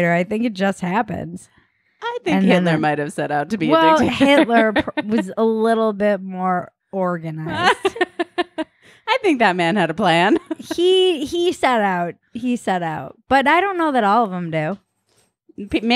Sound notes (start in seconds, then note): 7.5 laughing